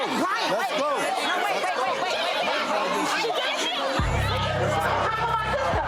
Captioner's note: screaming and fighting